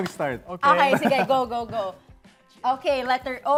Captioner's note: chuckling